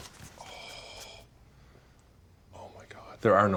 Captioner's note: susurrando